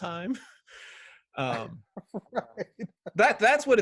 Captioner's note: laughs; chuckles